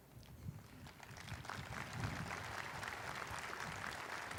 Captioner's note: audience applauding